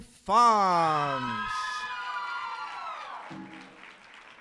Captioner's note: applause and cheers